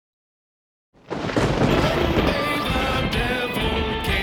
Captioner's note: lightning strikes